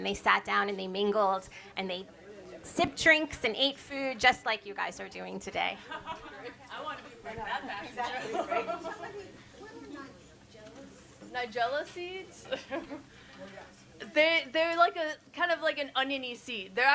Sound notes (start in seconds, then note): 7.7 people laugh; 8.1 laughs; 12.5 chuckles